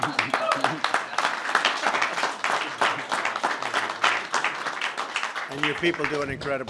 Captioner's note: laughter and applause